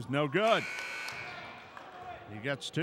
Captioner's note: buzzer buzzes